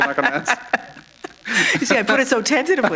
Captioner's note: laughter